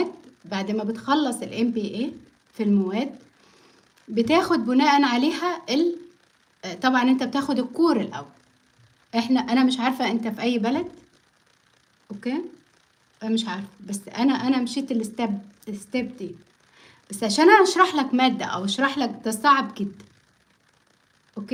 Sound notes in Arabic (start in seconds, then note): none